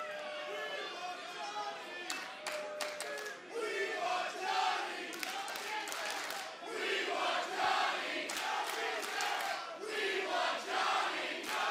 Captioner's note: fans chanting